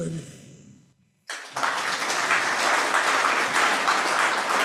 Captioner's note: applause